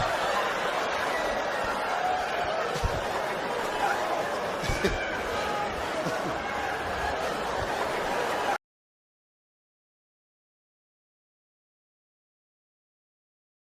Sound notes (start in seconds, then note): 4.6 Steve chuckles; 4.7 audience laughs